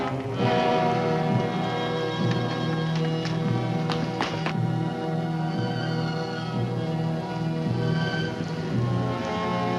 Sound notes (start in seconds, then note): 3.2 Eva's footsteps; 4.3 dramatic music